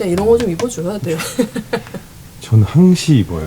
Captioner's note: laughing awkwardly